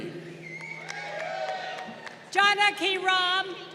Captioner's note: crowd cheering